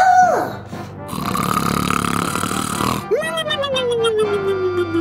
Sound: exaggerated snoring

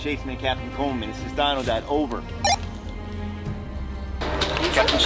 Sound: radio beeps; radio broadcasting Dino Dad; kids talking and playing

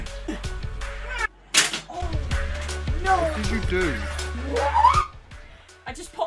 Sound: smashing sound

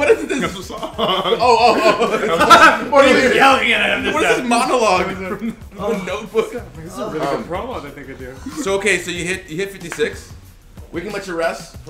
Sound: laugh

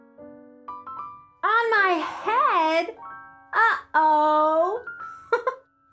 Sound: giggles

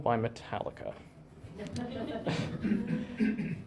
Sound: laughter

